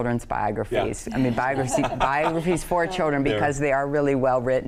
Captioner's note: panelists laughing